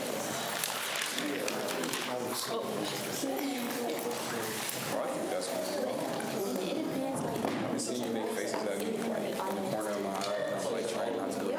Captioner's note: students chatter